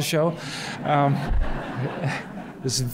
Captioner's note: laughter